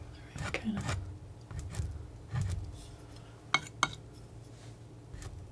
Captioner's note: scratching; scratching